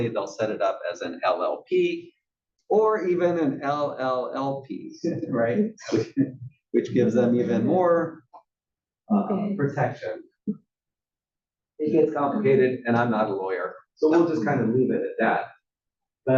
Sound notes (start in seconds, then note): 6.8 laugh